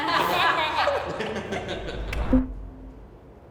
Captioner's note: laughter